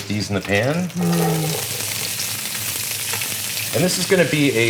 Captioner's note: sizzling